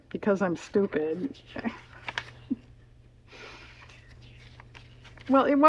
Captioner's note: laughs